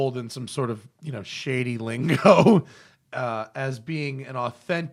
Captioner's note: laughter